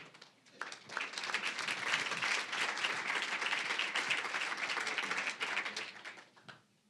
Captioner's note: applause